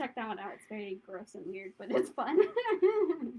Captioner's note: laughter